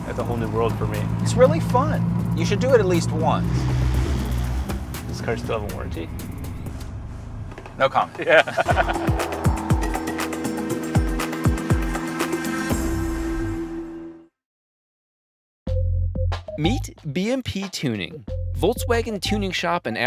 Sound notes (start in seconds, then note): 8.2 laughs